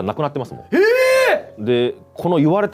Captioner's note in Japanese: 叫び声